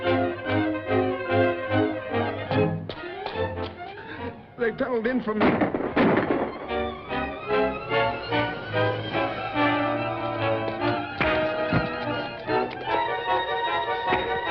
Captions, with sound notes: They tunneled in from-- [GUNSHOTS] [PUNCH THUDS]